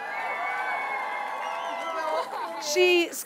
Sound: audience cheering

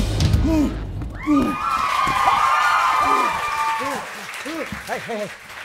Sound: audience cheer and clap

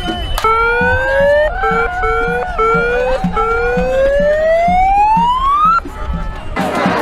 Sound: siren noise

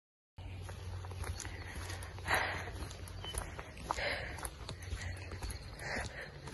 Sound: stepping on leaves, heavy breathing

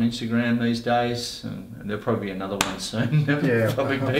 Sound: laughs

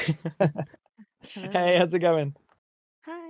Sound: laughs

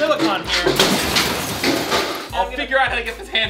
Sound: crash

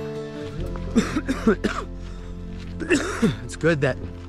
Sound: coughing

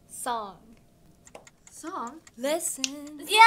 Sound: timer ticking

